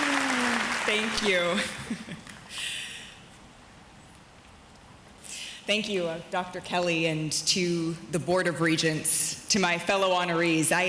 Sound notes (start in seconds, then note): 1.6 chuckles